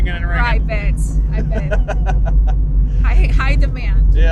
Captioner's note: laughs